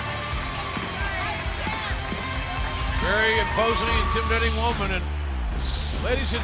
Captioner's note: cheers and applause